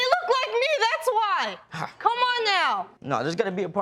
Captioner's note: sighs